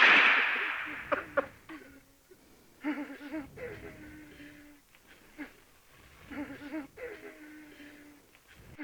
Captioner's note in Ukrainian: стогін на фоні